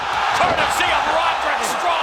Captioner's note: fans cheering